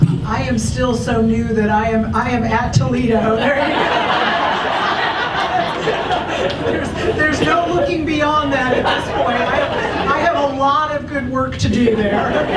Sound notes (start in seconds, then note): 3.3 audience laughs; 11.7 audience laughs